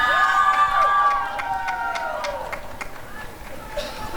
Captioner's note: applause and cheering